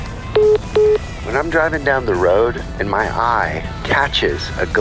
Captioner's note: phone message beeping